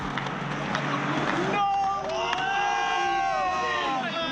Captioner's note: crowd cheers